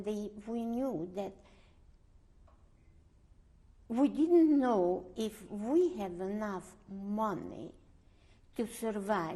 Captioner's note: pauses for 3 seconds